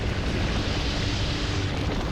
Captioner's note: roaring snow